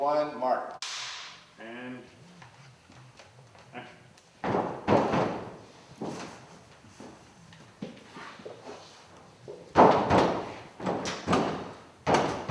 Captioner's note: lots of door banging